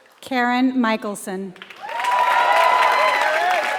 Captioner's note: applause